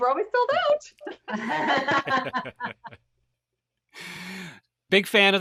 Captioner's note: everyone laughs